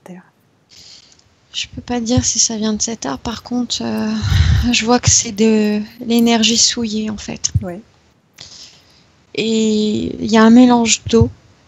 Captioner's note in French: respirations intenses